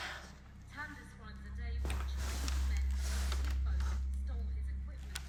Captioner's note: reporter speaking faintly